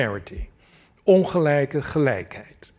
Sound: non-english

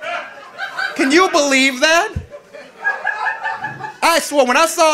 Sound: audience laughing

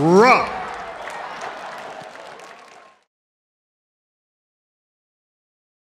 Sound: audience applauding

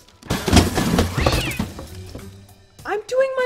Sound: cat screams

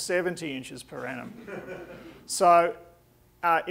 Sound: audience laughing

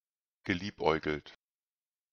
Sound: fast Pronunciation

